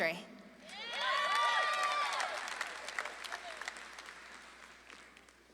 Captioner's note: audience claps and cheers